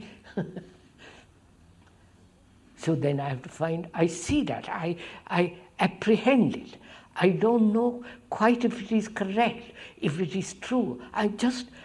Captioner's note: laughs